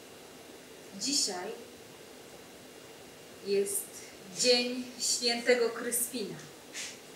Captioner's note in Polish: Po polsku